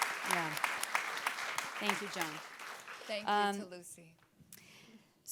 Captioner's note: audience applauding